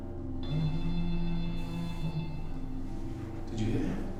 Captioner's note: phone rings